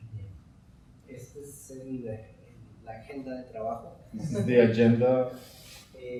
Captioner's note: speaking in Spanish